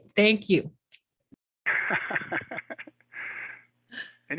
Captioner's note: laughing